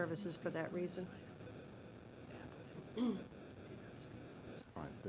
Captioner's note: clears throat